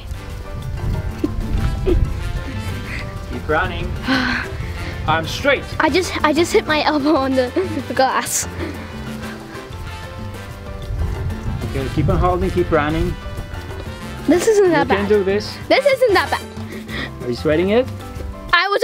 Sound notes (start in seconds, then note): 0.2 dance music; 4.0 takes a breath; 9.1 dance music